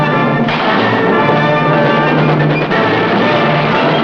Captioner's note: bomb explodes; guns fire